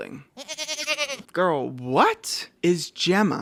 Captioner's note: goat noise